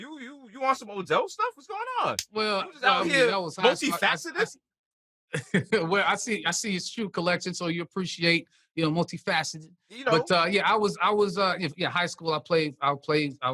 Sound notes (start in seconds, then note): 5.3 chuckles